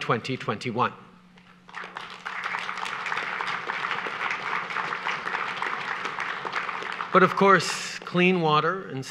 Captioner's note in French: Applaudissements